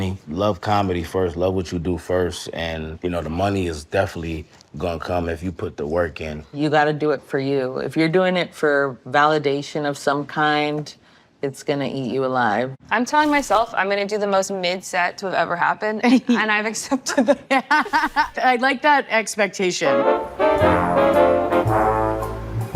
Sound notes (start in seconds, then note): 17.0 all laughing; 19.8 jazzy music